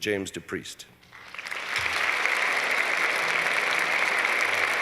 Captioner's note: applause